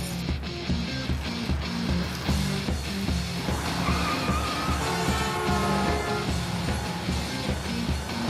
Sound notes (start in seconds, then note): 3.0 tires screech, truck horn honks